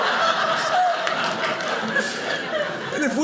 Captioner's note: audience laughing